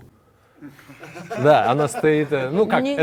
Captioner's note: laughter